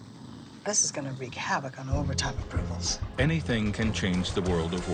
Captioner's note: all snoring